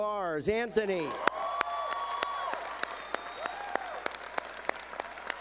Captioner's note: cheering